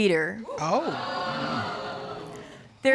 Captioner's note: audience exclaiming